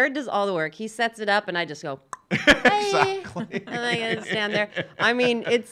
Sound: tongue pops

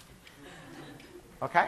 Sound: class laughing

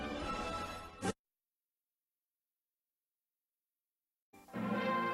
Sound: silence

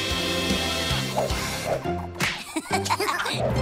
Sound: chuckling

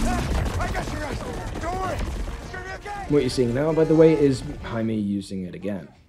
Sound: various cries

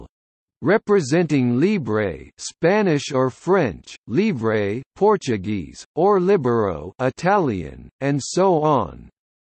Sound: Italian

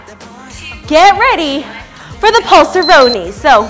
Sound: speaks in foreign language; beeps

